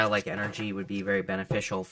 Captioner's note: deck thuds softly